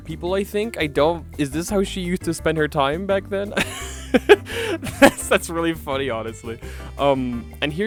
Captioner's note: laughing